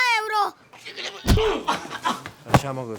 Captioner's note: kicks and punches